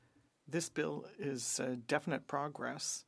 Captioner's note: speaking French